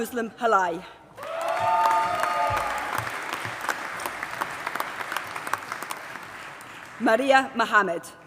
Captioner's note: applause